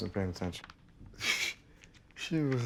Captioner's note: scoffs